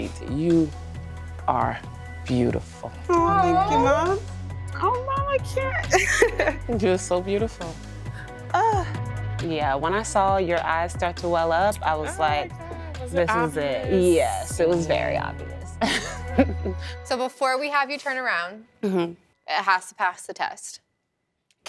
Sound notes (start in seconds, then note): 5.8 laughs; 15.8 chuckles